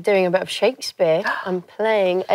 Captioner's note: gasps